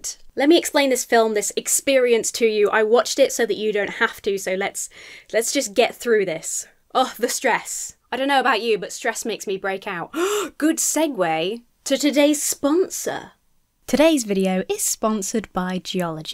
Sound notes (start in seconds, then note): 10.1 sighs